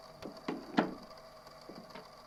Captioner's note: footsteps retreating; door closes